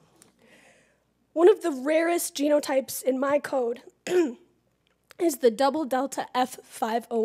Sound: cough

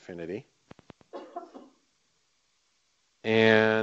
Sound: coughing

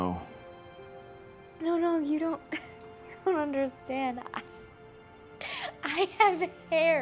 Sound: laughing

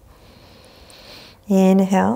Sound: inhaling deeply

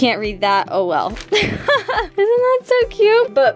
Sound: laughs

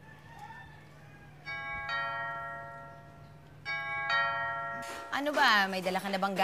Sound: doorbell ringing

